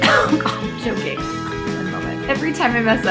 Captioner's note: laughs